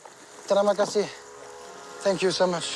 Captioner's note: speaking in foreign language